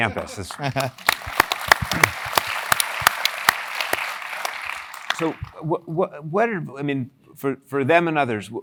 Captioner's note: applause